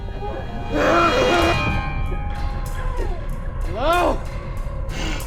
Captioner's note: grunting